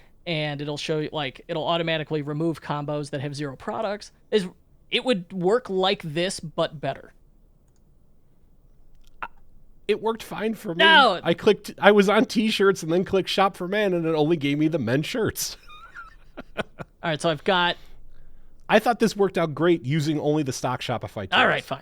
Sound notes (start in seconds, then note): 15.5 laughs